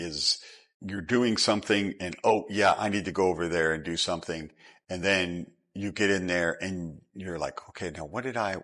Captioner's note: snap